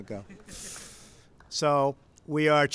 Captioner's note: laughter